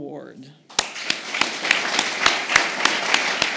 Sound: applause

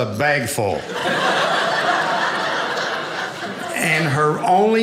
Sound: audience laughing

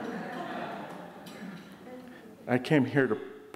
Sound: audience laughing

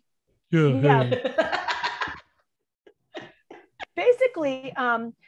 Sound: laughing

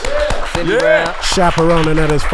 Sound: audience applauding

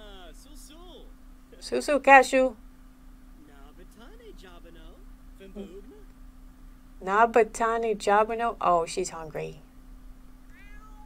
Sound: Simlish

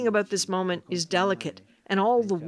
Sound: speaking alternate language

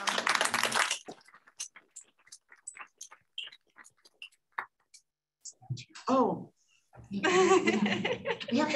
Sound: applause

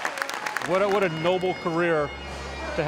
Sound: applause

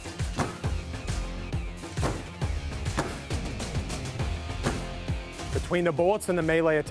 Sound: hammering

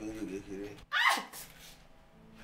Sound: scream

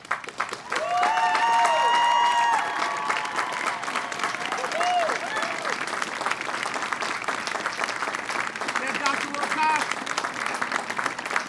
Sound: applause and cheering

